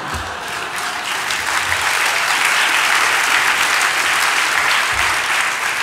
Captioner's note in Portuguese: Aplausos